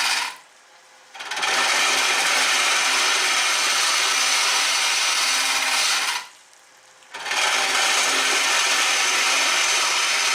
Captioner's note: noise of woodturning lathe and woodturning